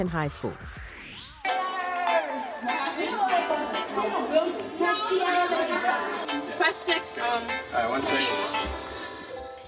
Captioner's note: dramatic music; chatter